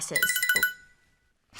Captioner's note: phone chimes